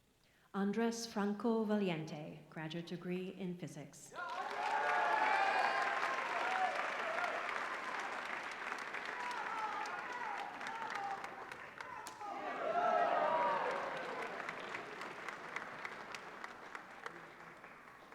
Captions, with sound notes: Andrés Franco Valiente, graduate degree in physics. [APPLAUSE]